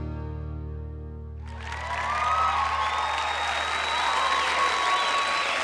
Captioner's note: crowd clapping and cheering